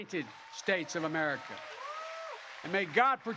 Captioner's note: applause